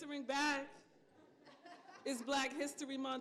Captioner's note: laughter